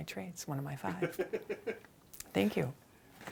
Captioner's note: host laughing